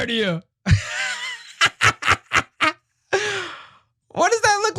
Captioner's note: laugh